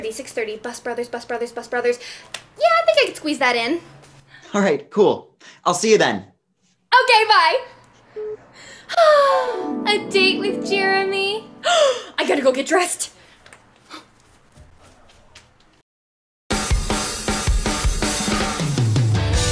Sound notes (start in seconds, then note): 11.4 gasps; 16.5 drums